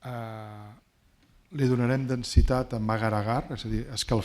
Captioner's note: speaking spanish